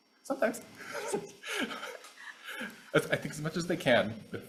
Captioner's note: laughing